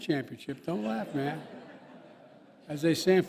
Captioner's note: laughter